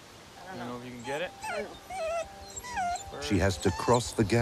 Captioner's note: whimpering